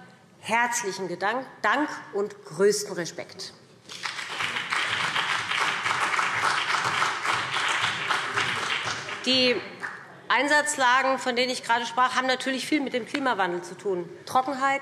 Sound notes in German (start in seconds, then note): 3.8 Beifall BÜNDNIS 90/DIE GRÜNEN und CDU